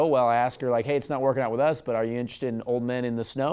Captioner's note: none